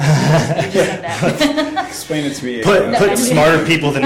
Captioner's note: laughs